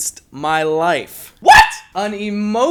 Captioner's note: screeching